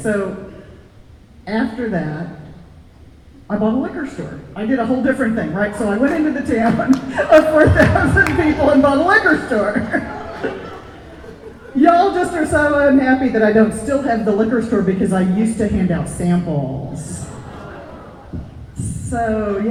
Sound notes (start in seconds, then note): 10.3 audience laughter; 17.2 audience "aww"